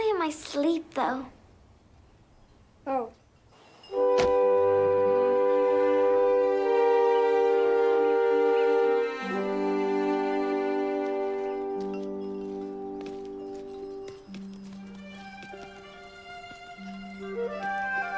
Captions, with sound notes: Only in my sleep though. Oh! [instrumental music] [bell tinkling]